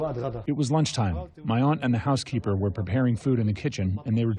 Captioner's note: through translator